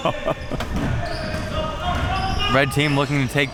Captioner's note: chuckles